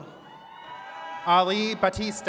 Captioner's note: attendees cheering